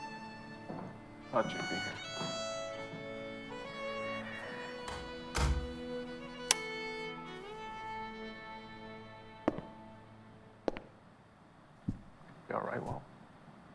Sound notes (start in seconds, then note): 4.4 door closes